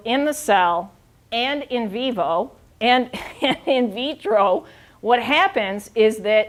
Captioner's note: chuckling